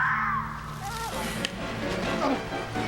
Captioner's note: screeching